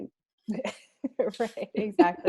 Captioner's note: laughs